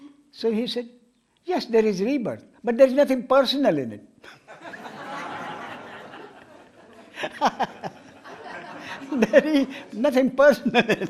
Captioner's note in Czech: smích